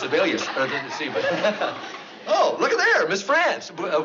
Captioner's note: stammers